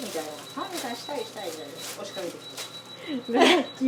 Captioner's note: laughs